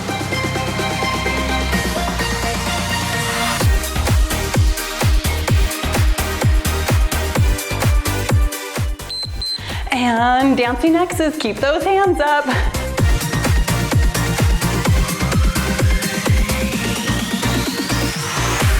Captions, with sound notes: (timer beeps) And dancing Xs, keep those hands up. (cheerful music)